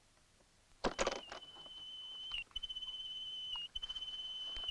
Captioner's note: device beeping